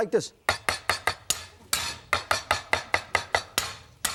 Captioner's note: knife chopping